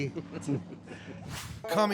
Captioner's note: both laugh